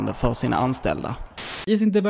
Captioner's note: white Noise